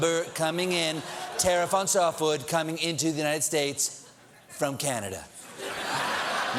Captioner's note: laughter